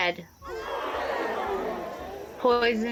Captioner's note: the crowd gasps and shouts in dismay